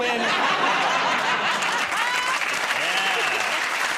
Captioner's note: applause